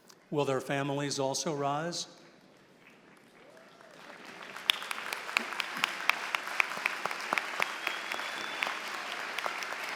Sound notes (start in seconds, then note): 3.0 applause